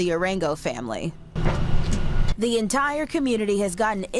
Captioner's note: metal clanking